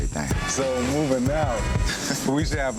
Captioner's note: upbeat thumping music; person laughs